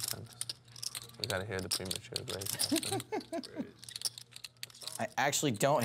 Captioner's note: laughs